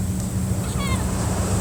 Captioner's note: waves break in the distance